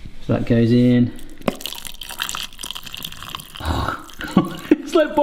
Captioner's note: milk ripples